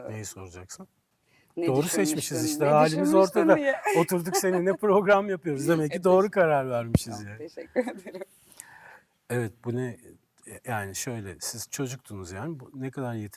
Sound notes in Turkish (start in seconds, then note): 3.8 kahkaha